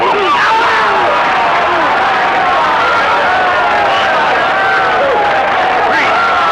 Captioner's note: audience applauding; audience cheering